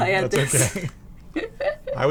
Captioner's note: laughs